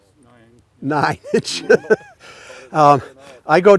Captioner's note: laughing